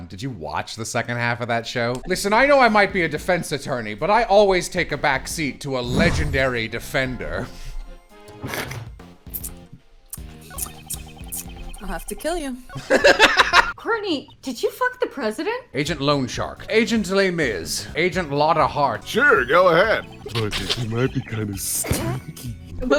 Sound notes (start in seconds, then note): 8.4 snort; 9.3 judgemental tongue clicking; 12.7 laughter